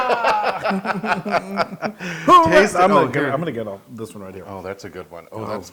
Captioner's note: laugh